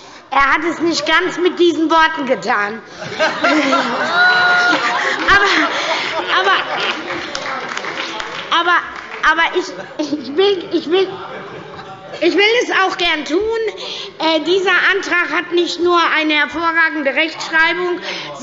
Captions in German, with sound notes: – Er hat es nicht ganz mit diesen Worten getan. (Heiterkeit und Beifall) Ich will es aber gerne tun: Dieser Antrag hat nicht nur eine hervorragende Rechtschreibung,